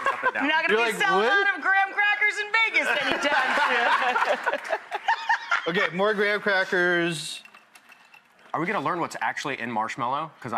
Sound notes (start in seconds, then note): 0.2 laughing; 2.9 laughing, clapping